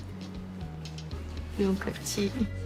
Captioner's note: speaks hakka